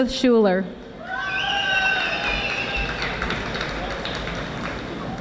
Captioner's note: audience applauding